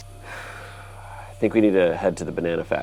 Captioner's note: exhales